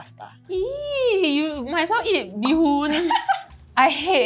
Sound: laughs

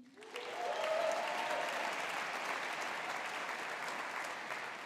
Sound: audience applauding

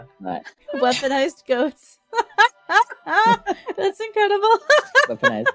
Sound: laughing; more laughing

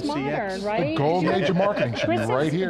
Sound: laughs

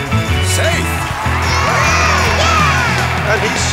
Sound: cheering

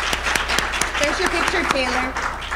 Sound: applause

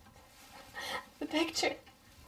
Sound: sobbing

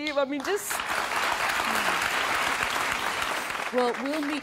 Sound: audience applause

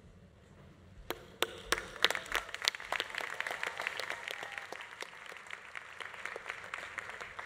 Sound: audience applauding; audience cheering

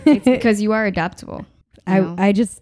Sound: laughing

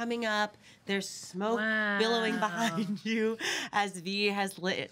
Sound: laughs

